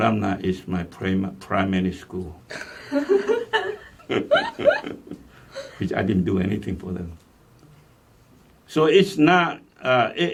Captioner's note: all laugh